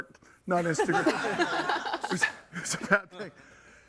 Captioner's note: all laughing